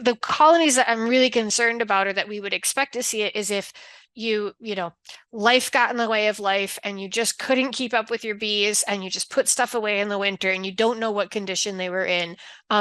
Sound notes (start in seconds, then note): none